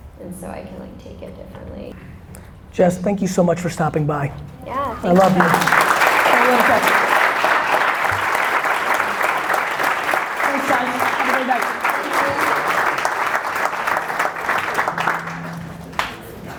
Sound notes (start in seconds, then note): 6.1 audience applause